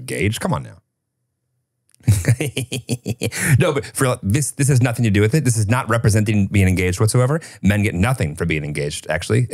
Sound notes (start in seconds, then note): 2.0 chuckling